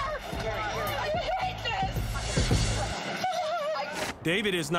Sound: sobs

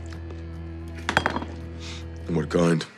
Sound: bottle clatters

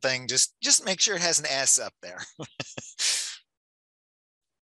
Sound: laughs

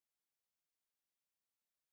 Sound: none

